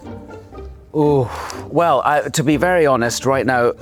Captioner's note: sighs